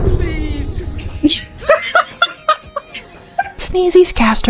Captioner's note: cackle